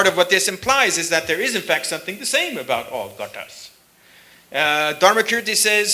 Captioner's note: sanskrit